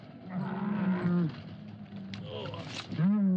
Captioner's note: camel groans